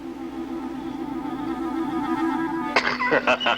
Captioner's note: La risa